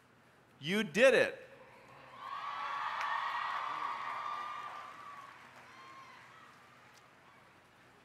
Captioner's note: applause